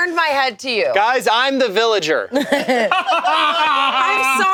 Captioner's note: group laughing